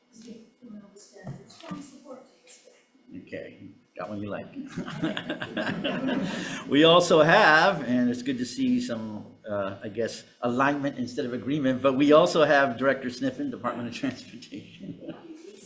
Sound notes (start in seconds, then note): 4.6 chuckling; 4.6 attendees chuckling; 14.6 chuckling